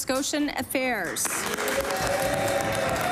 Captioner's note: applause